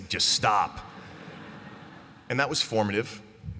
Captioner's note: laughter